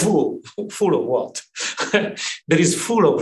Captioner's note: laughs